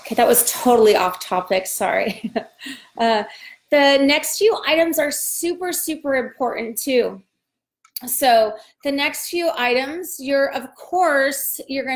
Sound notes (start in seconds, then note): 2.3 laughs